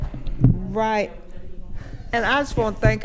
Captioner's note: continues quietly